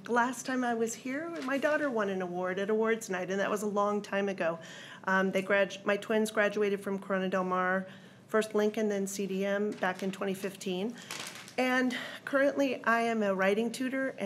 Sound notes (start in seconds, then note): none